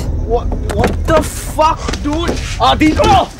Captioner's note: Car door opens